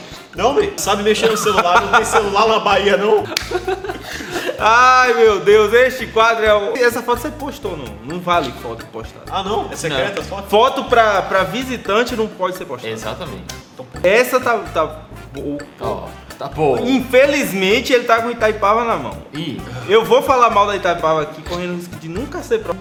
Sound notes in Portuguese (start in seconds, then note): 3.2 Risos